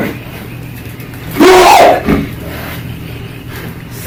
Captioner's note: screaming